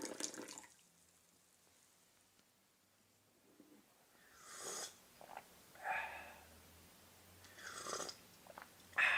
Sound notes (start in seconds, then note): 5.0 sips